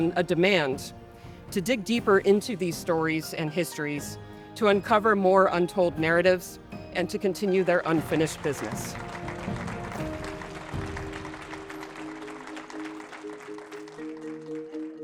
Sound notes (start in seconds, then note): 9.4 audience applauding